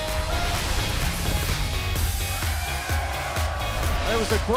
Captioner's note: cheers and applause